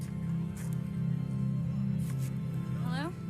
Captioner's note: feet shuffling